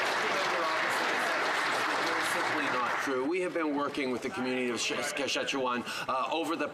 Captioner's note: some Applause